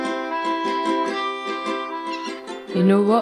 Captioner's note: seagulls squawk